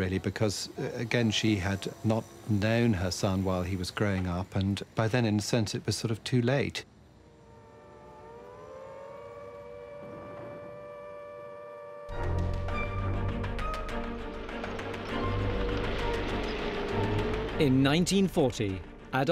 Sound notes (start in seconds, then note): 7.0 alarm blaring; 12.1 tense music